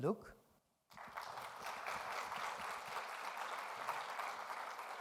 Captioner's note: audience applauding